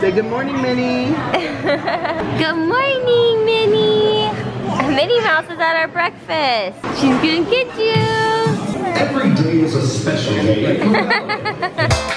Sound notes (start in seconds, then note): 1.3 laughs; 10.8 laughs